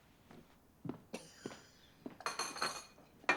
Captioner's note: coughs